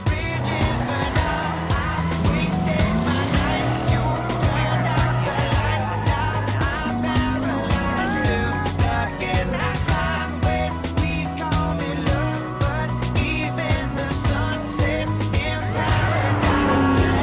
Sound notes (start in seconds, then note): 8.5 laughs nervously